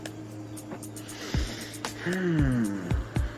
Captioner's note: inhalales